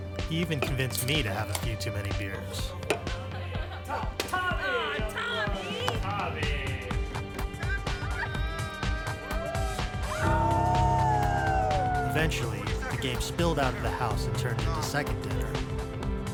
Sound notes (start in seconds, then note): 2.7 laughter; 7.6 cheering